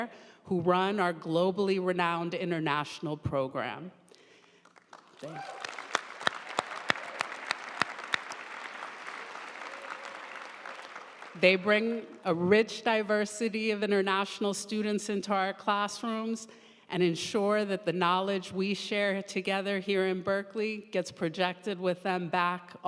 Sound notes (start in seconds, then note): 4.6 audience applauding